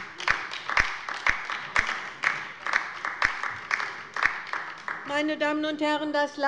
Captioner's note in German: Beifall bei der LINKEN